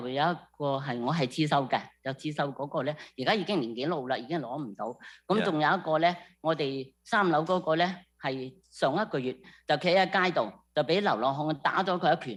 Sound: speaking non-english

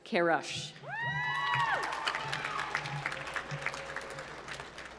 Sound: applause

